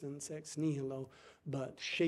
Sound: speaking foreign language

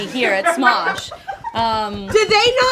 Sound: crew laughs from offstage

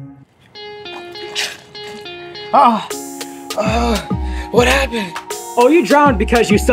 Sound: coughing Water

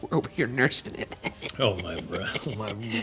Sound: laughing

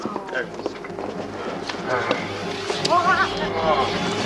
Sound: groans, nervous screeching

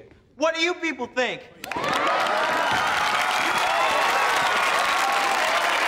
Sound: cheering, applauding

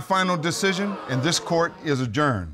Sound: audience gasp

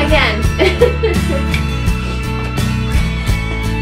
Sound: laughs

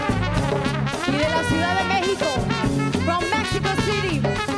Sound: speaks in Spanish

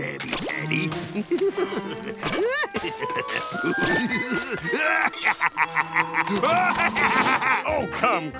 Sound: giggling

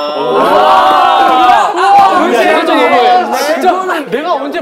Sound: murmur

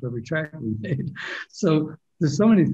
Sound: laughs

